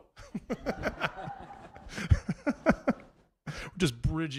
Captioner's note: audience laughing